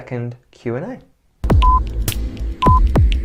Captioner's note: ticking clock